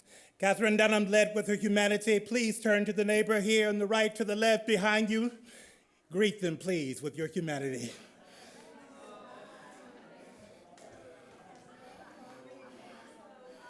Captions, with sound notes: - Katherine Dunham led with her humanity. Please turn to the neighbor here on the right, to the left, behind you. Greet them, please, with your humanity. (attendees chattering)